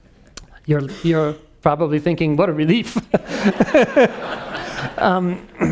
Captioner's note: laughing